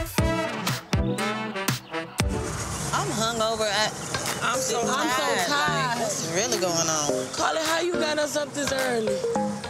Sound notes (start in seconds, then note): 0.1 upbeat music continues; 4.5 beep